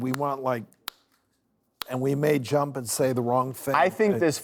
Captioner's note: snapping